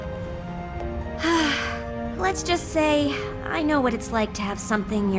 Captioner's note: sigh